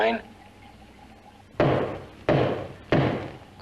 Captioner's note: door banging